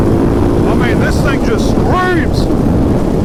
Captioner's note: shouting